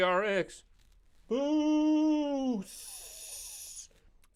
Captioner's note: vocalized SFX